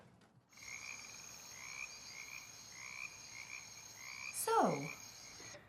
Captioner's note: insects buzzing